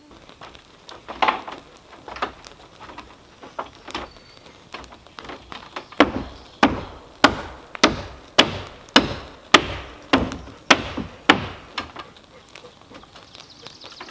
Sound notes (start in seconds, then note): 6.9 hammering